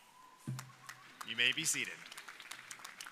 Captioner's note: crowd applauding